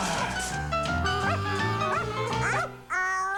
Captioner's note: arf arf